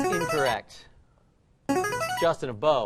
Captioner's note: chiming